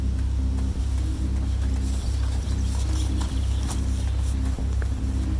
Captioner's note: hurried footsteps crunch